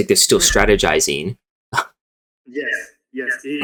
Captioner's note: coughs